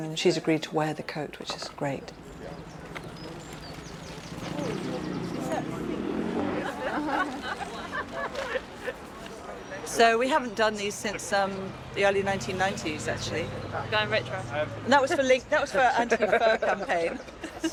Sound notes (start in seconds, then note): 2.9 birds chirping; 4.5 vehicle engine rumbling; 6.8 indistinct chatter; 6.8 people laughing; 17.5 people laughing